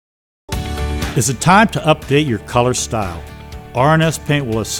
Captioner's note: voice-over